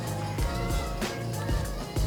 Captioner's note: laughs